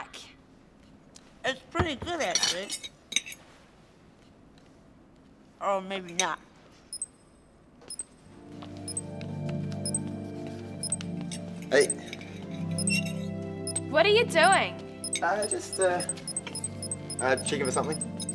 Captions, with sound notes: - Yuck! - It's pretty good, actually. Or maybe not. (machine beeps) - Hey. - What are you doing? - Oh, just, uh, checking for something.